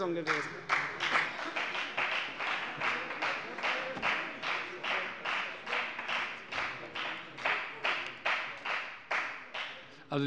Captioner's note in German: Beifall bei der FDP sowie bei Abgeordneten der CDU